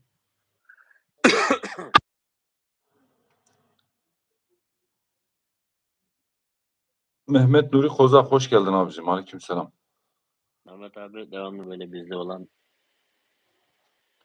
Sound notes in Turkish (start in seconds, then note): 1.2 öksürme